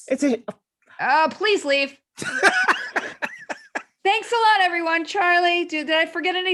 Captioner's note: laughter